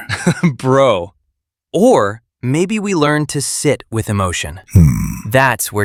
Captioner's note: chuckles